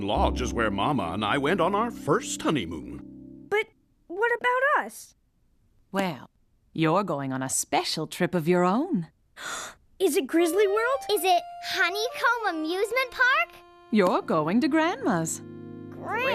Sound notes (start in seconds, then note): 9.4 gasps